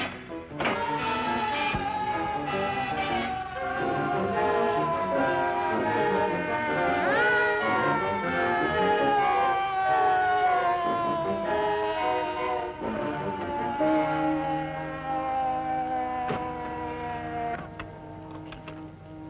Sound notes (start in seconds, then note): 0.7 siren wailing